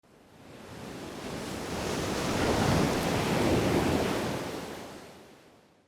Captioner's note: waves crashing